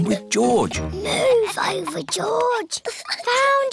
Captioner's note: whispers